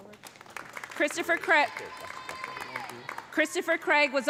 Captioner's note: audience applauding; audience cheering